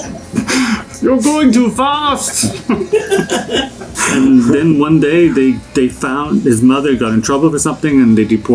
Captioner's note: laughter; In Sven voice; laughter